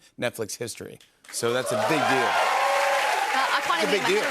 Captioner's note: cheers and applause